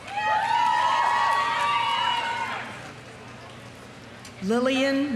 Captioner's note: audience applauding; audience cheering